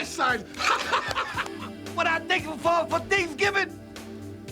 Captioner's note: laugh